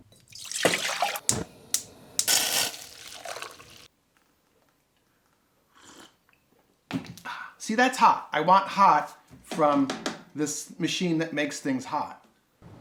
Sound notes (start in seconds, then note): 0.4 water rushing; 1.4 clicking; 2.6 sizzling; 5.1 slurping